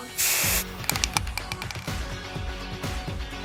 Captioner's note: spray paint hisses